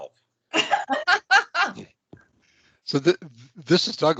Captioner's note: laughing